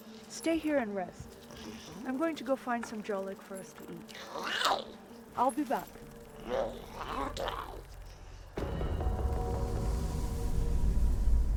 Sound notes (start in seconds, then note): 6.3 Giree grumbles; 8.7 tense music